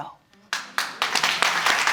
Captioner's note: audience applauding